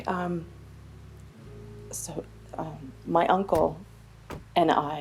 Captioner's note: car doors clicking